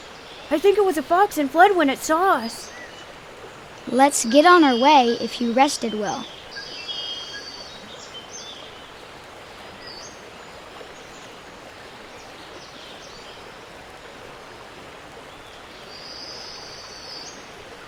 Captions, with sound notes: - I think it was a fox and fled when it saw us. - Let's get on our way if you rested well. (water flowing) (birds cawing and chirping)